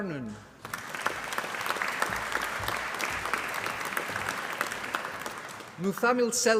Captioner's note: applause